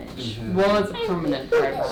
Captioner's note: baby gurgling